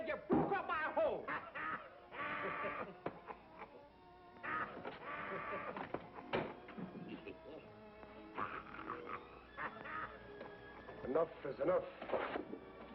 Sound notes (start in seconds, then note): 2.1 laughing